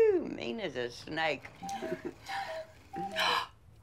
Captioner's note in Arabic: رنين ساعة الوقواق